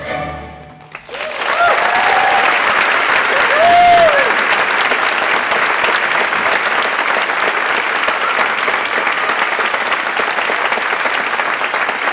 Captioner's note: applause